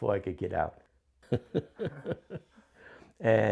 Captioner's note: laughs